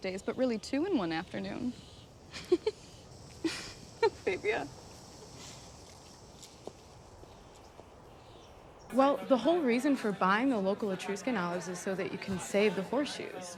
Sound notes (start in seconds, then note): 2.2 laughs